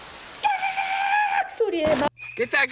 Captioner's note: static growing louder; fake scream